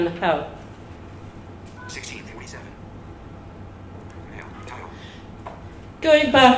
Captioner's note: phone speech